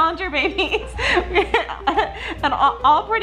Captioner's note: laughing